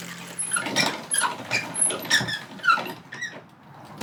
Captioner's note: cranking noises